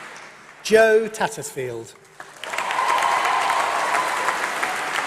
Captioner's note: applause